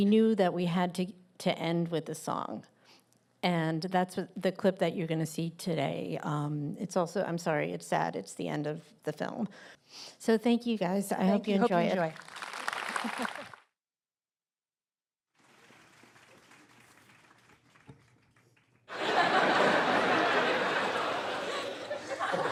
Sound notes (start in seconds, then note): 15.3 applause; 18.9 laughter